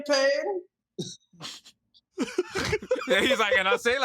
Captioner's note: all chuckle